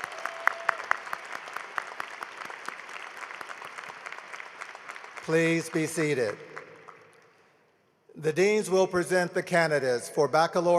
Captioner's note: applause